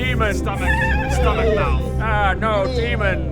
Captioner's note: unicorn whinny